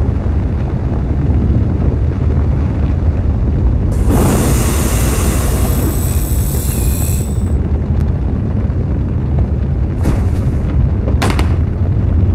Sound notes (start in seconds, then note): 4.0 drone whizzing; 10.0 rover thuds